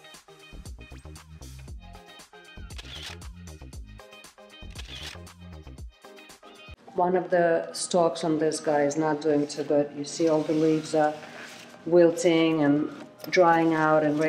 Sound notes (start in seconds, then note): 2.8 camera clicking